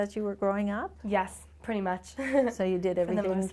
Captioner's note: chuckles